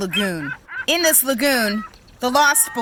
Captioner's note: seagulls cawing